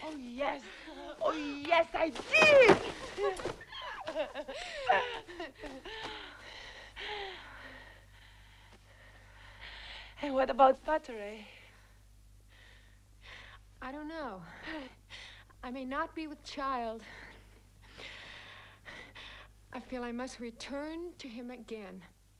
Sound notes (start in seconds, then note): 3.6 both laughing; 5.6 both breathing heavily